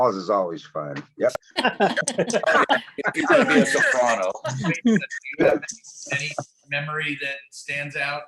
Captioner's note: laughter